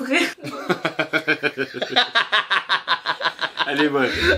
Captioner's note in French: Rires